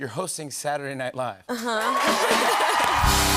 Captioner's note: cheers and applause